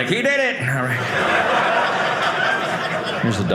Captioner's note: audience laughing